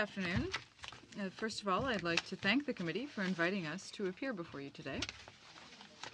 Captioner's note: speaking french